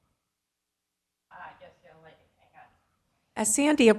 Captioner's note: woman speaking faintly